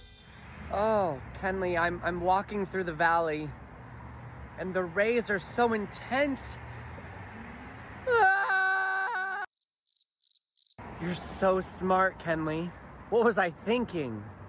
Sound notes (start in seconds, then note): 8.0 screaming; 9.5 crickets chirping